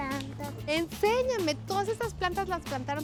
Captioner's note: speaking Spanish